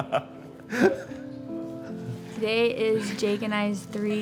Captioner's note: laughs